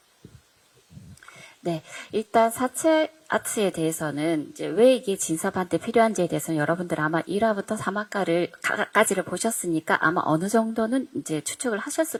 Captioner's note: translating in Korean